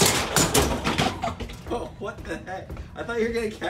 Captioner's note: laughing